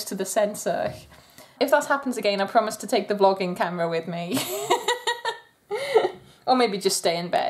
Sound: laughter

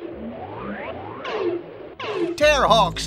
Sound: electronic beeping

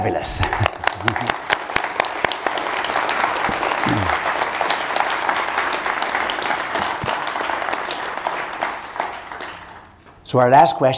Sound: applause

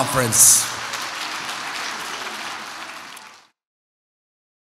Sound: audience applauds

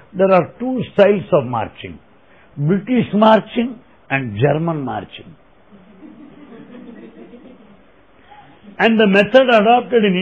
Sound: laughter

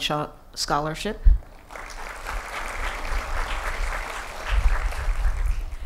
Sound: applause

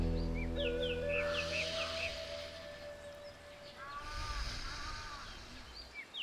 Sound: breathing

